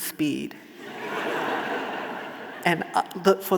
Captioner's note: audience laughing